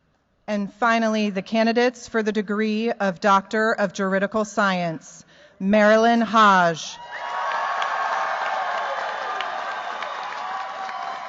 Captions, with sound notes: And finally the candidates for the degree of Doctor of Juridical Science Marilyn Hodge. [CHEERS, APPLAUSE]